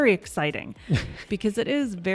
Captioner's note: chuckles